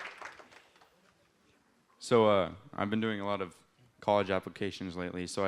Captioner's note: applause